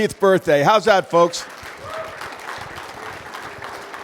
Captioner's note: applause